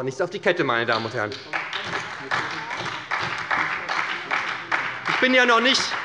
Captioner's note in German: Beifall bei der SPD